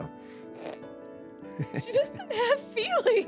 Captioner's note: laughs